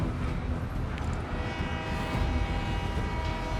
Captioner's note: match clatters, train horn